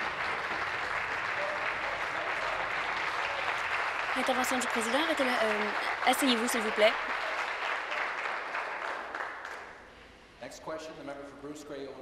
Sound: applause

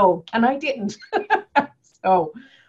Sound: laughing

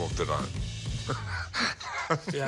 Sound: chuckles

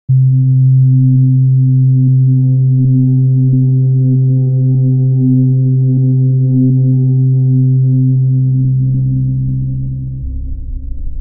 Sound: horror audio

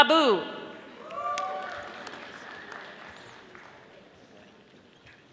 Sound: audience applauding

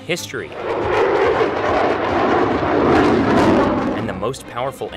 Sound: plane engine roaring

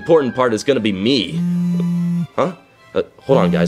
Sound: phone vibrating

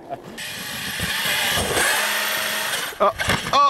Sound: RC truck wheels spinning

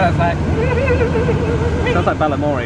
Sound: humming

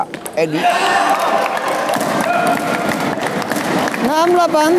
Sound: applause

